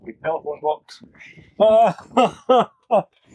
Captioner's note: laughter